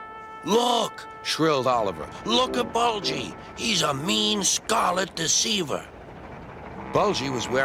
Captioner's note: idle bus sounds